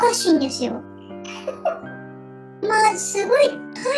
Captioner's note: laughs